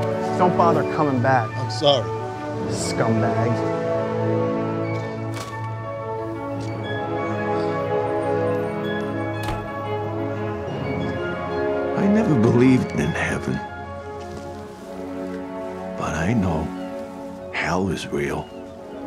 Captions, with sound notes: Don't bother coming back. I'm sorry! Scumbag. [Bag crinkles] [Door slams] I never believed in heaven. But I know hell is real.